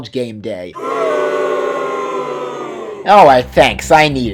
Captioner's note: boooooooooooo!